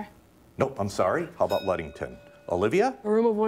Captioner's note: bell rings